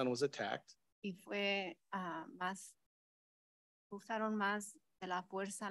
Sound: speaks in Spanish

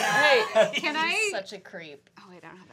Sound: laughter

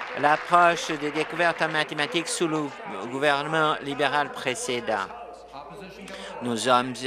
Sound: applause

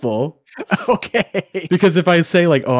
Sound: laughing

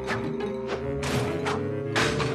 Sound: crash

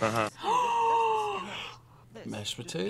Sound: gasps

